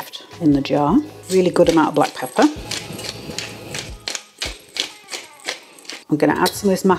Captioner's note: pepper mill grinding